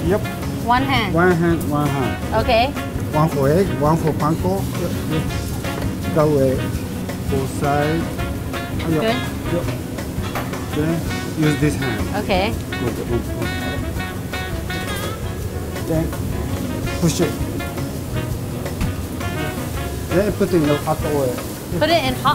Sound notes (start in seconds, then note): 13.2 patting noises; 17.7 lively jazz